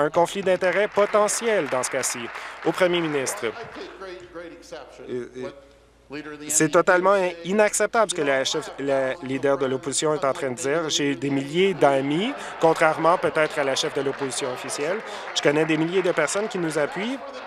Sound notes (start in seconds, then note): 2.9 applause